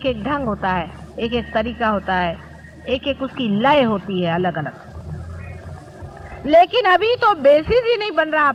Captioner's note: vibrations